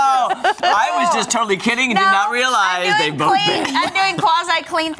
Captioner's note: laughter